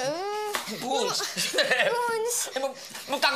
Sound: cries

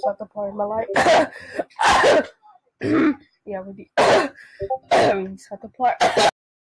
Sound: le cough

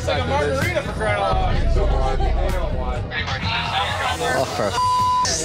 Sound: bar patrons murmuring; beep

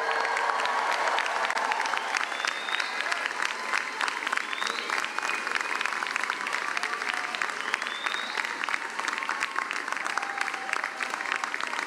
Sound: cheering and applause

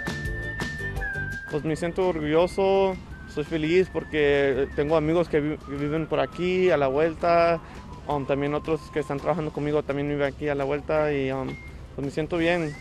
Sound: Spanish

